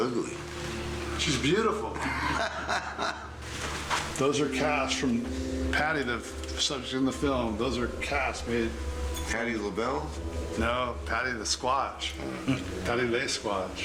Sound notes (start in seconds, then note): 1.8 laughs